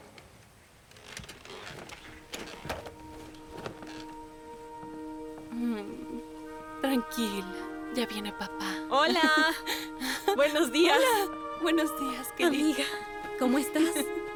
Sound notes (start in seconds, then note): 7.9 slow orchestral music; 10.5 Emma laughs; 12.6 speaking in foreign language